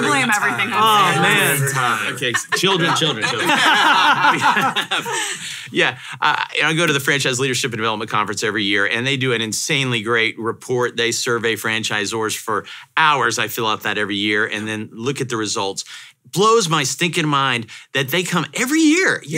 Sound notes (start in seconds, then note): 3.5 hosts laugh